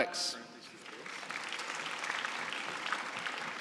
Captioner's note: applause